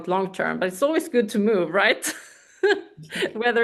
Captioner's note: laughs